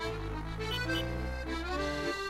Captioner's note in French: vrombissement du moteur; klaxon